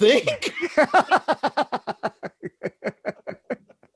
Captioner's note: both laughing